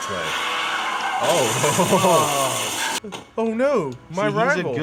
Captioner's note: tires squealing; car crashing